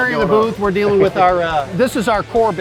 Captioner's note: laughs